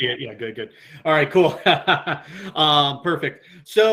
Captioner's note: laughs